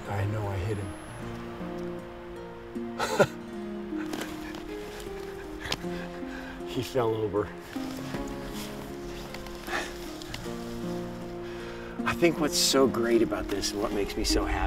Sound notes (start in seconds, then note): 3.8 laughs